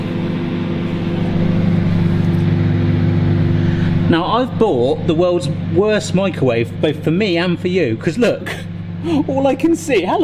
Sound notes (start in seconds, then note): 0.1 microwave humming